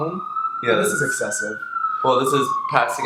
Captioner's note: police siren intensifies